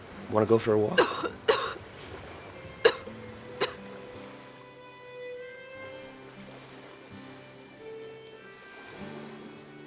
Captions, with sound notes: - Want to go for a walk? (Rachael coughing) (soft music)